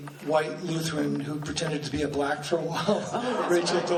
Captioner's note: laughing